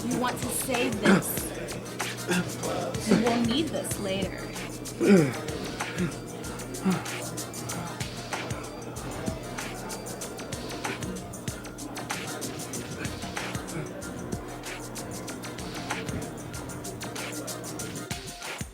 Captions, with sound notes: You want to save this. You will need this later. [heavy breathing] [electronic music continue playing]